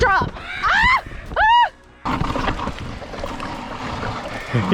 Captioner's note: both scream